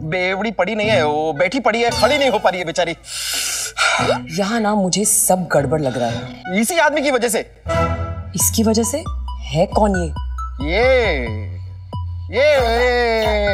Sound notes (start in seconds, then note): 3.1 Sighs deeply